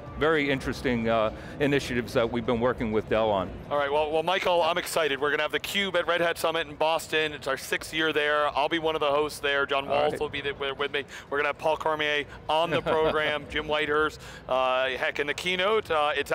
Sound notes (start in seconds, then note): 12.7 laughs